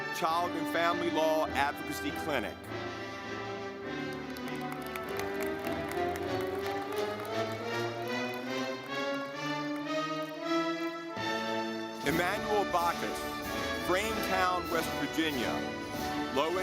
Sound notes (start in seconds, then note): 3.6 audience clapping